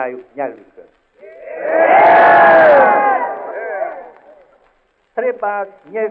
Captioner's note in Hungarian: éljenzés